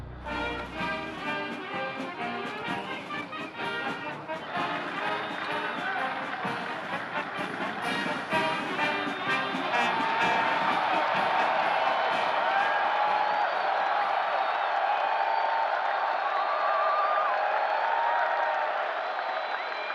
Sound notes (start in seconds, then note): 0.2 fanfare playing; 4.1 cheers and applause; 6.5 marching band playing; 12.3 cheers and applause continue